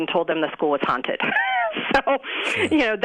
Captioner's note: chuckles